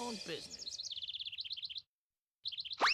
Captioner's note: twittering